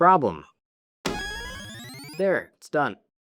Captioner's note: device chiming